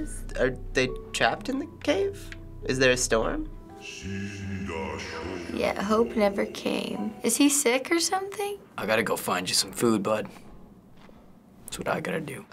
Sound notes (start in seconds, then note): 3.5 in game: speaking foreign language